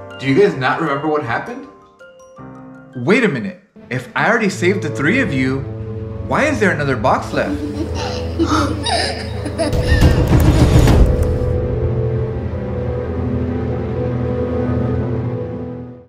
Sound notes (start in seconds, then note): 7.5 little girl laughing